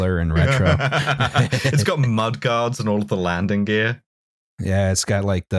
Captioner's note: laughs